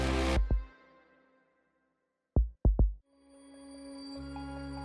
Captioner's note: heart beating; gentle mysterious music